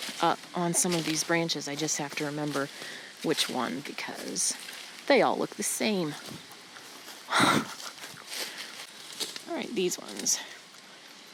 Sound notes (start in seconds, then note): 0.0 leaves crunching; 7.3 chuckling